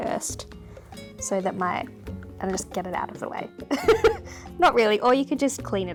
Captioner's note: laughs